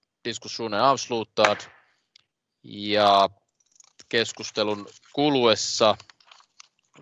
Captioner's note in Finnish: nuijan kopautus